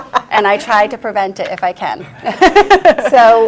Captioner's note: laughs loudly; laughs